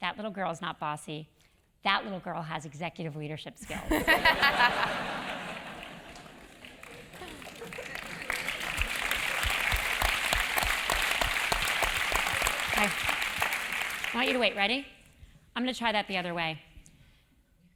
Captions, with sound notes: that little girl is not bossy, that little girl has executive leadership skills. >> [LAUGH] [LAUGH] [APPLAUSE] >> Okay, I want you to wait, ready? I'm going to try that the other way.